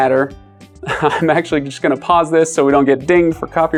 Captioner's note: chuckles